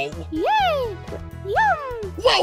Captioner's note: gulp